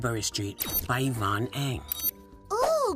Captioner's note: computer beeps